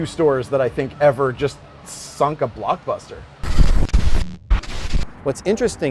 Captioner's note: static sound